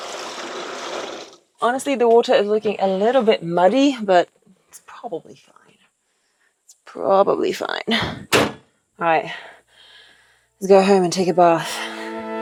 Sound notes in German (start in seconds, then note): 8.0 Tür knallt